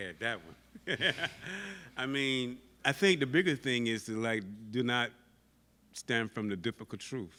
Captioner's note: laughs